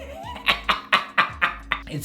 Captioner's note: evil laugh